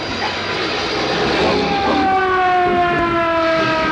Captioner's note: fire engine sirens; harmonized singing